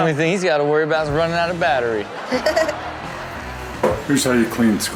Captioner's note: laughs